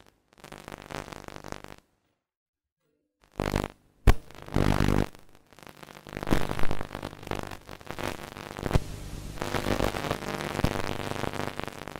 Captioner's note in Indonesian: suara noise televisi tua